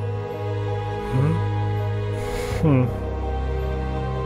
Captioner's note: mysterious music continues; The Prince sighs